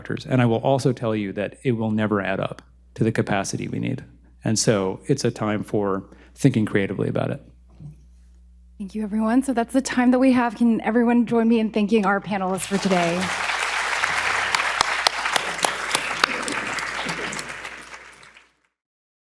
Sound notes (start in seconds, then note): 12.4 audience applauding